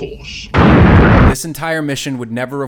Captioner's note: explosion